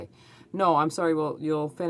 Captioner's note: speaking french